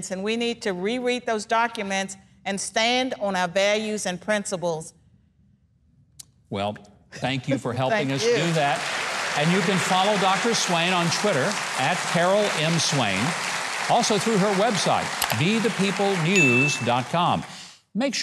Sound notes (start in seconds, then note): 9.1 audience laughing